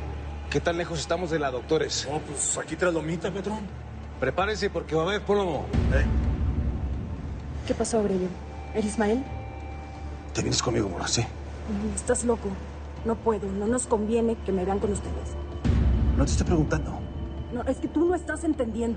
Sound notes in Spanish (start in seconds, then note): none